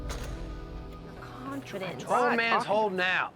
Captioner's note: arguing